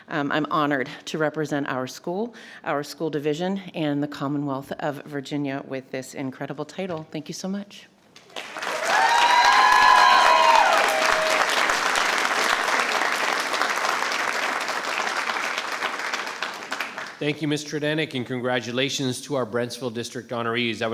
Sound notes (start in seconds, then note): 8.2 attendees applauding and cheering